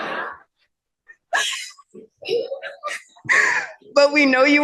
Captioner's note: laughter